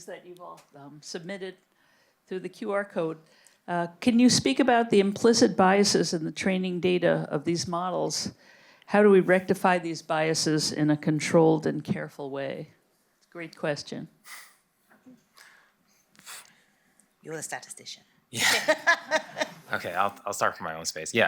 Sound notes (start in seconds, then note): 18.3 laughs